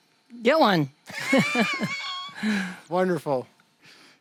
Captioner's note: both laughing